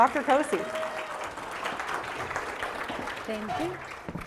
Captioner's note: applause